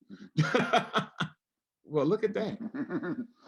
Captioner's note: laughing